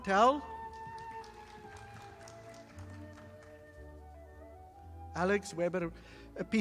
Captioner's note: audience applauding